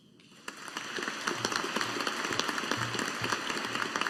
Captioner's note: audience applauding